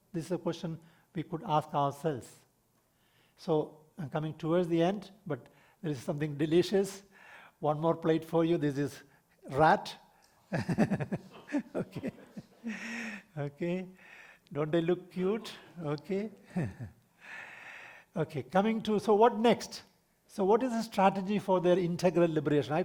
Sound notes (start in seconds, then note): 10.4 laughs